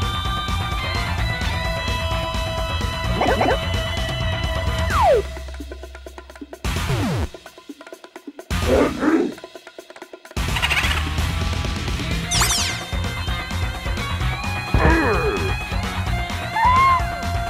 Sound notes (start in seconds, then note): 3.0 grunting; 8.6 guttural growl; 10.3 eerie chuckle; 14.7 grunting; 16.5 high-pitched wail